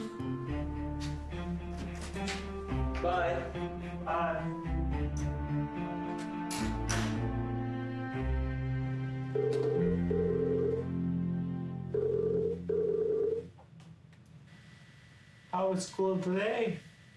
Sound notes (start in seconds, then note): 9.7 phone ringing